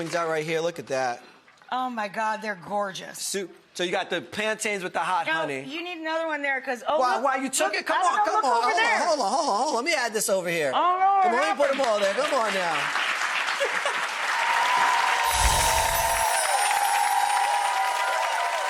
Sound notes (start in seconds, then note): 13.8 audience cheering; 14.9 sparkling sound